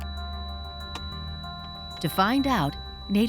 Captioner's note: ringing